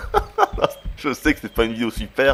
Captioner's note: laughs